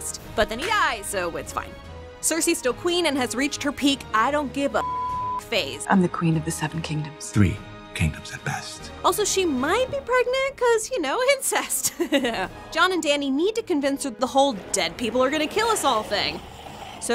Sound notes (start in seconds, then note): 4.8 beeps; 11.8 laughs